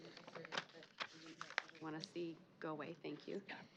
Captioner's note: faint mic pickup